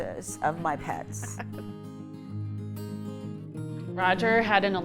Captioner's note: laughing